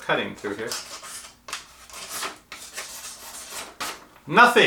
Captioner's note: cutting noise